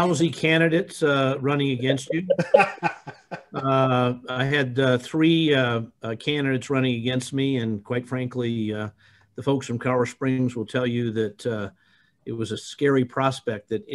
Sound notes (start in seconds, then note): 2.0 laughs